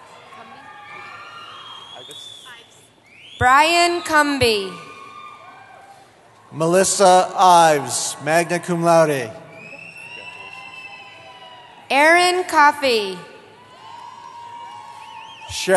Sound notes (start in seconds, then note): 0.0 cheering; 3.7 cheering; 9.1 cheering; 13.4 cheering